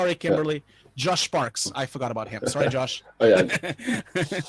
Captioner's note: laughing